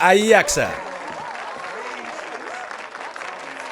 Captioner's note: <i>light applause and cheers</i>